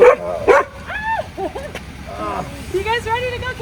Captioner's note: barking